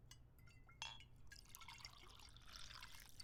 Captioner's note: wine pouring